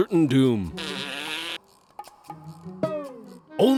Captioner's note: blows raspberry